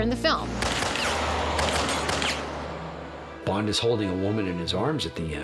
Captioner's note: gunfire